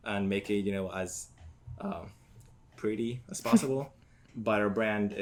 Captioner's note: laughs